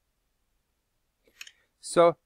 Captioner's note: silence